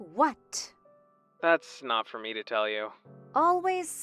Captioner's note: phone vo